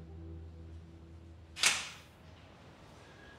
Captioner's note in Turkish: Kapı açılıyor